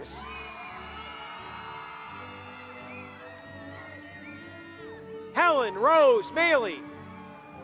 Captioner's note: applause; applause